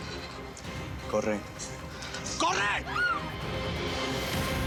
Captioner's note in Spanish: gritos